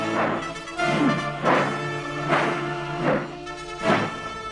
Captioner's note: sword whooshing